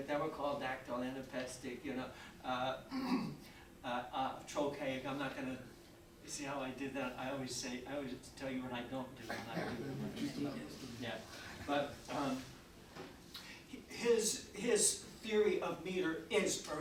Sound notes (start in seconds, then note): 2.9 clears throat; 9.5 faintly speaking; 10.7 audience chattering